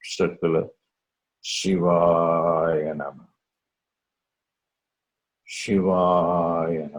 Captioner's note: chants